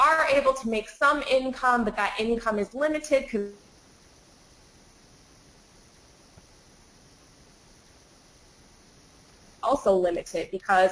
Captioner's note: static